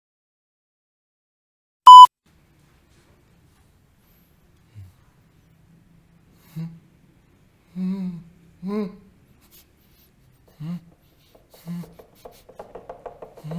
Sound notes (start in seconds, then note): 1.8 recording beep; 7.3 humming voices